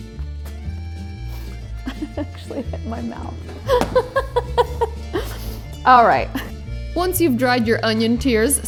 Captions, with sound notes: (chuckles) It actually hit my mouth (laughs). All right. Once you've dried your onion tears,